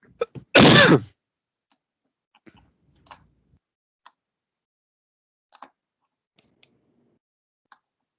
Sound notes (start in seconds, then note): 0.2 man coughing; 3.2 mouse clicking